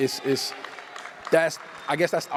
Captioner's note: applause and cheers